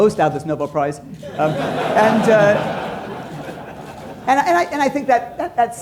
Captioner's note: laughter